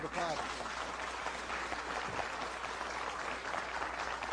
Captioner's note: applause